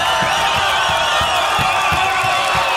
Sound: crowd cheering like crazy!!

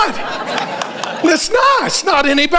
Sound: congregation laughing

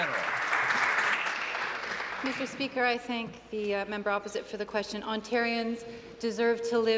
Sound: applause

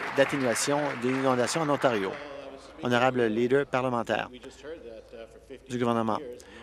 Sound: applause

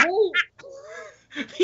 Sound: laughing

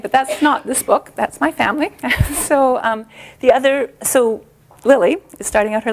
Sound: chuckle

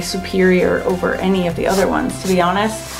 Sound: palm rubbing

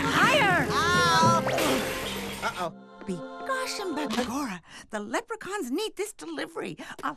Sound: crashing

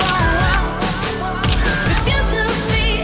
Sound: camera clicking

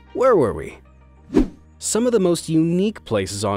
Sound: transitional wipe-screen rushing sound

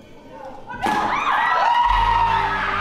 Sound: bang; screams

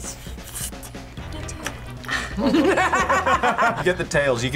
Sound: group laughs

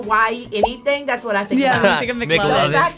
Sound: graphic popping

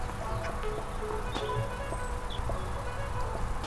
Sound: phone beeps

